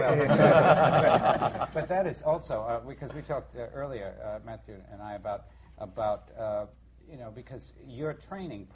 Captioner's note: laughing